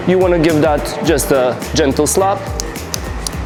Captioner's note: gentle slap